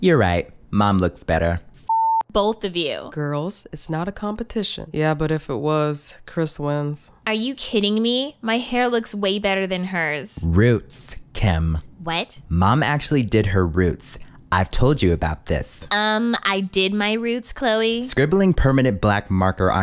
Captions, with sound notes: - You're right, Mom looks better. - (beep) both of you. - Girls, it's not a competition. - Yeah, but if it was, Kris wins. - Are you kidding me? My hair looks way better than hers. - Roots, Kim. - What? - Mom actually did her roots. I've told you about this. - I did my roots, Khloe. - Scribbling permanent black marker